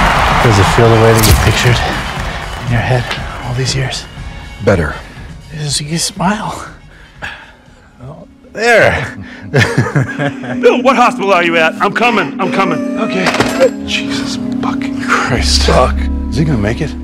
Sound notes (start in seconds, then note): 8.8 laughs